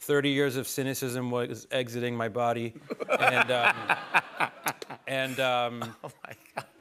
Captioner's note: laughter